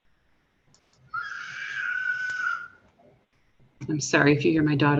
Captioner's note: child yells